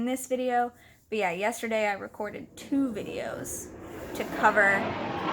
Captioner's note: loud plane sounds